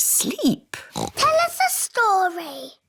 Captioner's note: oinks